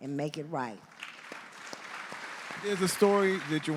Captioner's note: audience applauding